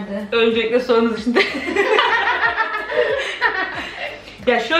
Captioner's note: laughing